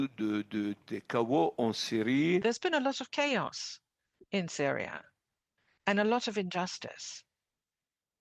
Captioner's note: speaking French